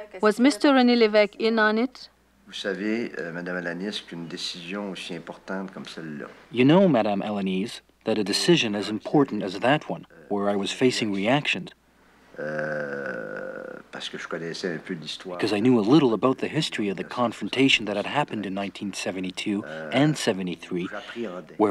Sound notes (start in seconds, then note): 2.7 speaking in foreign language